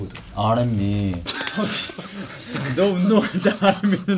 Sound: members laugh

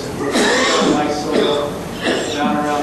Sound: student coughs

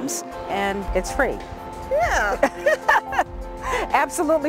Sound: laughs

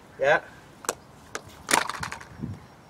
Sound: shooting noise

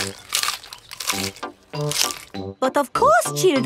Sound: munching

